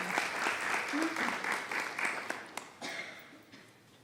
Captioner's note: applause